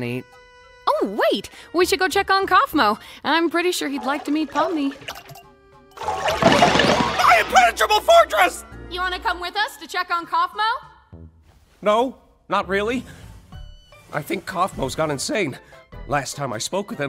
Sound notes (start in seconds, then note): 6.3 cartoon blows thudding